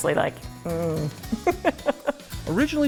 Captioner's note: laughing